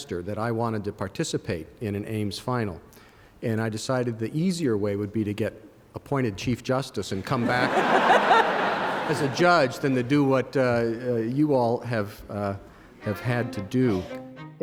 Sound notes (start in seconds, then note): 7.3 laughter